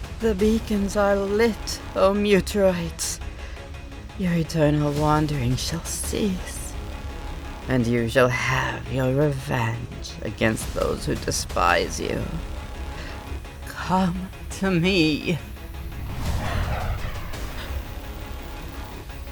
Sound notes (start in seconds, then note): none